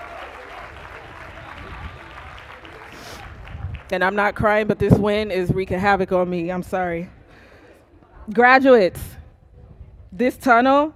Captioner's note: cheers and applause